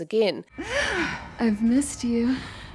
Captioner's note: gasps